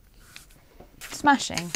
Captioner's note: pencil scratching; scissors snipping